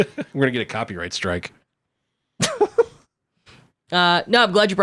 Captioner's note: laughing